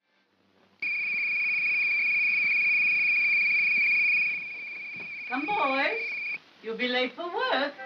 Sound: whistle blowing

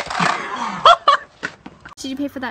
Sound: laughter

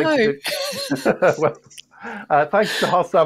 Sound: laughter

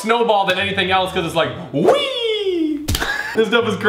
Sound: laughing

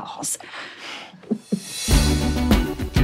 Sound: giggles

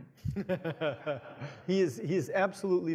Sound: audience laughs

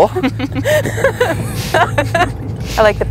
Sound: laughs

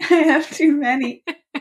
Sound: laughs

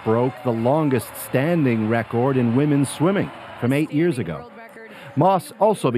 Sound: cheers and Applause

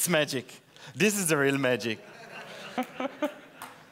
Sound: laughter

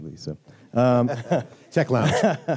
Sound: laughter

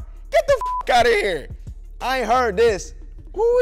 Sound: beep

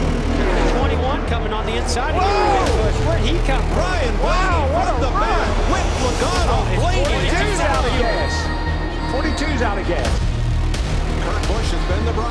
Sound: announcer narrating race

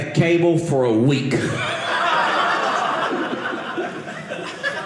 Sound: audience laughing

